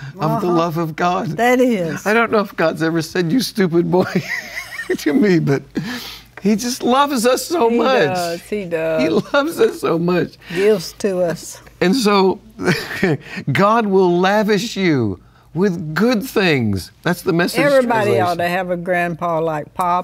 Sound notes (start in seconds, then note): 12.6 chuckles